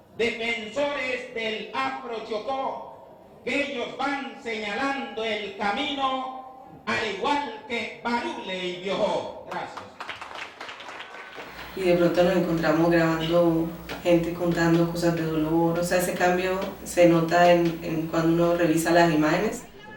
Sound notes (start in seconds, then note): 9.5 applause